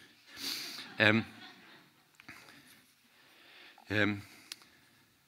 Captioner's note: audience chuckling